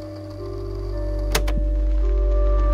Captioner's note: click